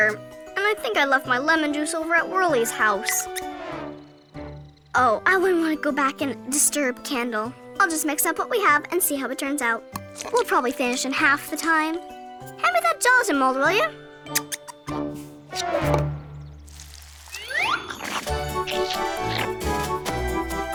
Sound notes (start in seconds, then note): 14.3 mouse squeaks; 17.4 playful cheery music